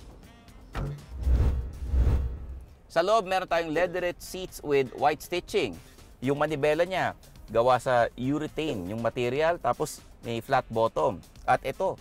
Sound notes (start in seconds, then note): 0.8 trunk closes